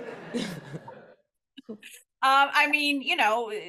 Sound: laughter

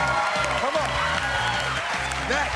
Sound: cheers and applause

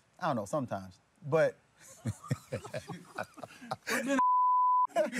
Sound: laughter

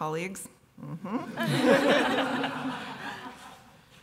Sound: laughter

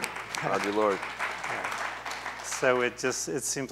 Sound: applause

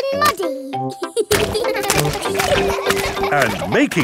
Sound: children laughing

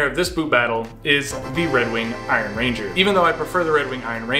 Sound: gong chimes

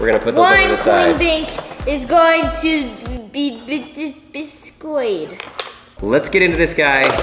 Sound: stutters

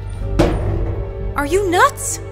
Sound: door clanks

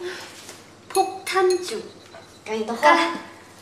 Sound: Korean

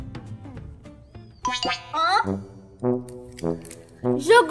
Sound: sound effect

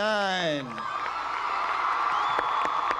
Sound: cheers and applause

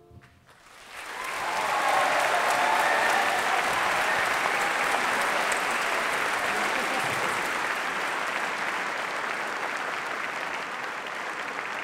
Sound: applause

